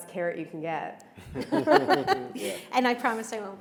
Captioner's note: panelists chuckle